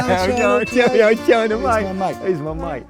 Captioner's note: laughing